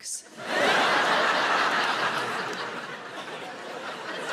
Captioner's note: audience laughing